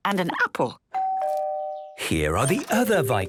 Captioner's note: doorbell rings